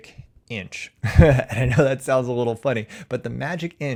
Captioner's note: chuckles